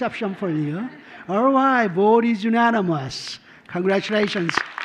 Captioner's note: laughter